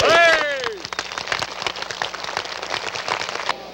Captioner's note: applause